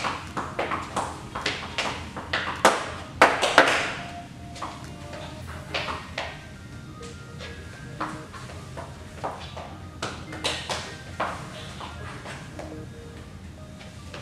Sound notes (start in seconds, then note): 6.8 bright music continues; 6.8 shoes clanking continues